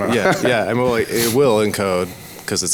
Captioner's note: laughs